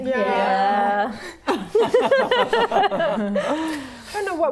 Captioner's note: laughing